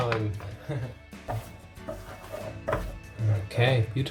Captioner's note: chuckles